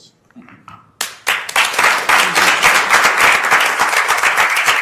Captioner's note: applause